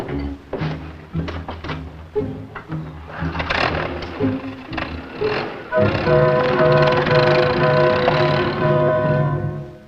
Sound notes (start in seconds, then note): 0.0 vintage music; 2.6 engine running; 8.4 vintage music